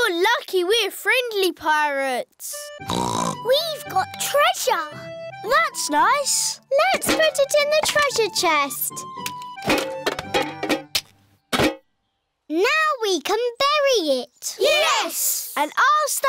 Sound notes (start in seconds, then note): 2.8 snorts